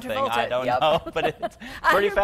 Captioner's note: both laugh